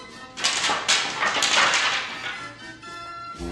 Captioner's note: clatters